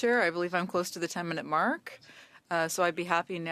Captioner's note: speaking French